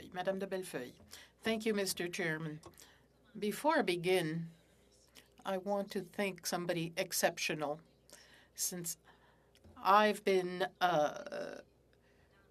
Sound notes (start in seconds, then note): 3.6 speaking French